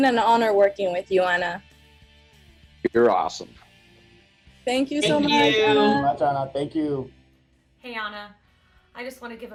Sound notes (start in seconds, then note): 4.5 speaking together